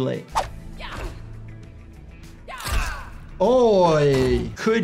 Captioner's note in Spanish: luchadores gruñendo